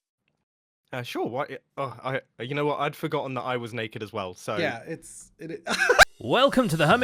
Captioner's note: cut off laughter